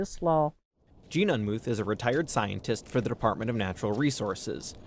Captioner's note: voice-over